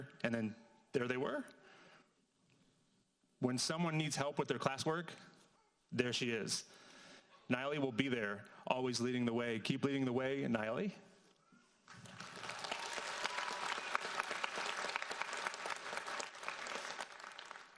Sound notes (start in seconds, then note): 11.9 audience applauds